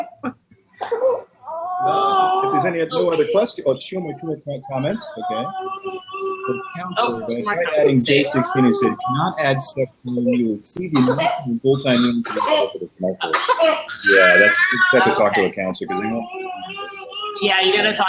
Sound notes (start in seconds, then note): 4.0 baby crying loudly